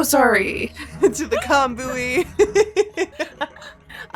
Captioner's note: chuckles